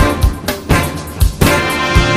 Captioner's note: none